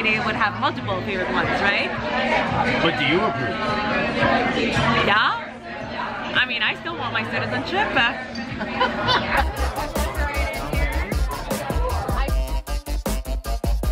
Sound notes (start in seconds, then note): 8.9 man laughing; 9.2 upbeat rhythmic hip hop music